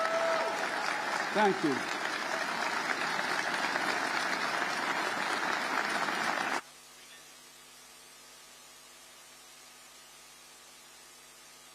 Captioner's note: applause; cheers and applause